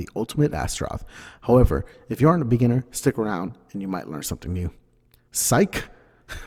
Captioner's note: none